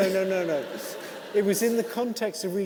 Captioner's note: audience laughing